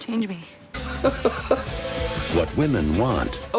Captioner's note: laughs; upbeat music